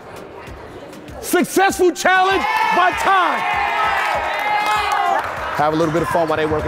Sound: team cheers

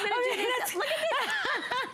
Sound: laughter

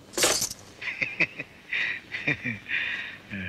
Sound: laughs

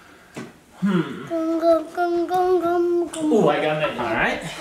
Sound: little girl mummering

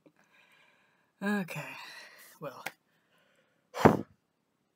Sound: exhaling; HEAVY exhaling

